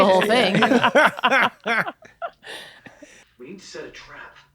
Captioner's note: they laugh